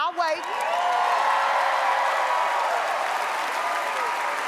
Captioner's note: audience applauds